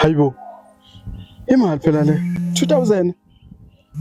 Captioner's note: phone Rings